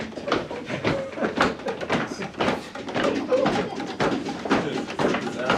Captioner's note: clapping